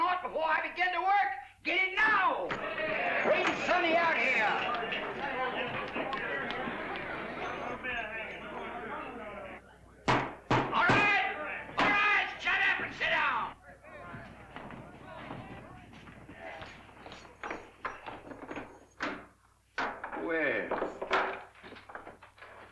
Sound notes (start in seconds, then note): 5.6 excited chatter; 10.1 gavel thuds; 17.4 chain clatters